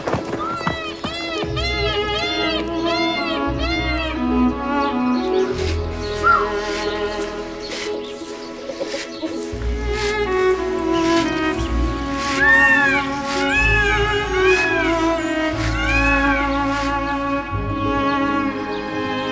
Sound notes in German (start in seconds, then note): 0.6 Pfauenschrei; 11.9 Gurrende Vogelrufe